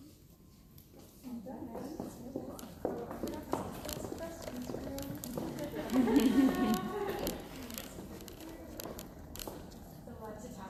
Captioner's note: indistinct conversation, laughter